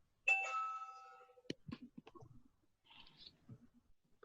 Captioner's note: bell chiming